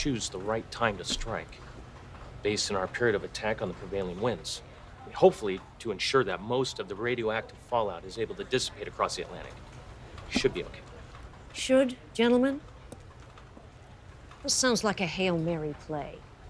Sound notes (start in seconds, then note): none